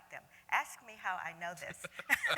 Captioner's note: laughter